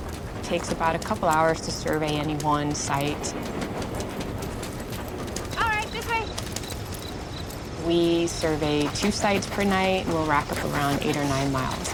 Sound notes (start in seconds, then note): 6.9 cricket chirping